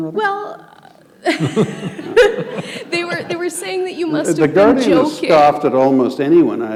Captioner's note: chuckle